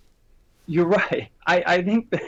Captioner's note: laughs